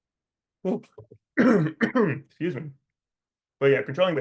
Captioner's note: coughs